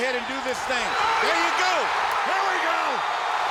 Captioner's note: audience cheering